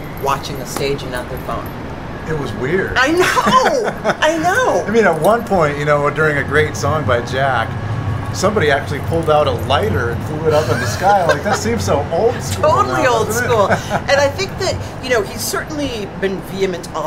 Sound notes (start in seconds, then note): 3.2 laughter; 13.4 laughter